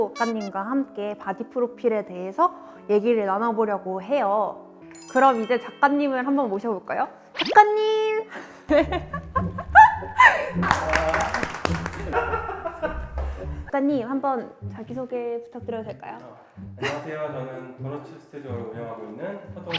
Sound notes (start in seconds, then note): 10.6 trying to cover up the awkwardness with clapping